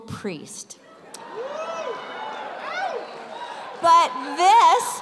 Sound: cheers

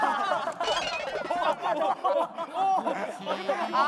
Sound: crash

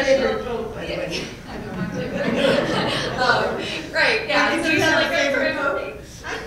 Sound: laugh; laugh

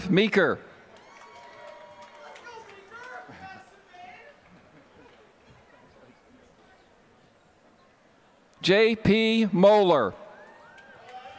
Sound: applause; applause

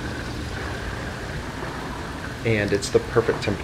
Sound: water splashing

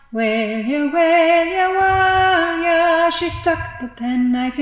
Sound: slower heartbeat restarts

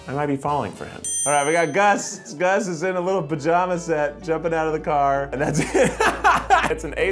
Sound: laughter

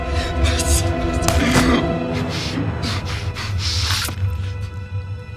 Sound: flesh ripping

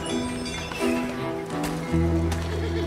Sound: western music; horses neighing; walking on sand with spurs

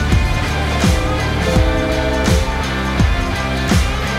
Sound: truck Horn Blows

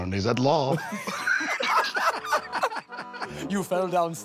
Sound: laughter

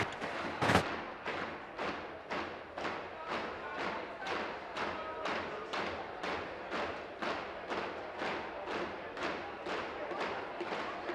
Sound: tapping desks

